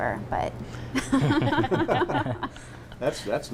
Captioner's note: laughter